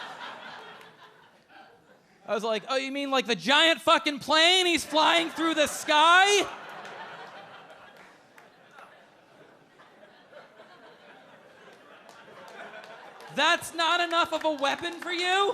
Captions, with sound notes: I was like, "Oh, you mean like the giant fucking plane he's flying through the sky?" (audience laughing) That's not enough of a weapon for you?